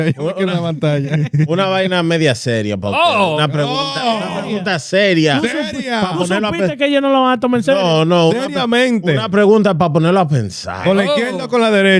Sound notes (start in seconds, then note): 1.3 speaking In Foreign Language